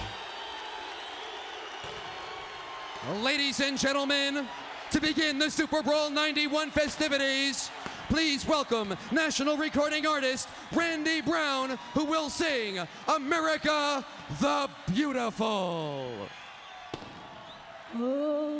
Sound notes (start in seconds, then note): 0.7 crowd cheering